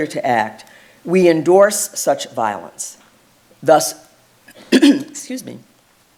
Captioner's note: clearing throat